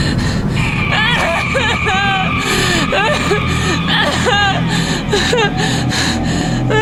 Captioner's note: alien trilling; sobs; Sally grunts in pain